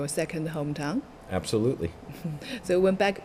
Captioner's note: laughs